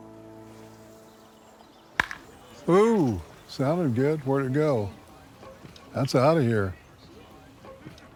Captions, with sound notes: [bat striking] - Ooh, sounded good. Where'd it go? That's out of here.